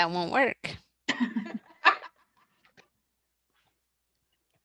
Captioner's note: laughter